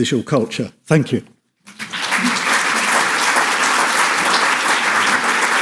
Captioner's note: audience applauds